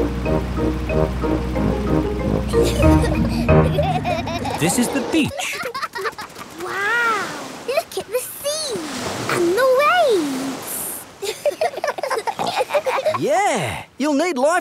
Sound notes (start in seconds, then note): 2.5 children giggling; 11.2 giggling